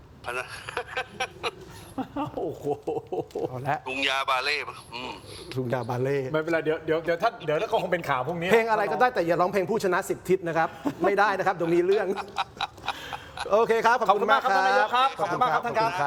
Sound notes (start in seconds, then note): 0.2 laughs; 4.4 sigh; 11.6 laughs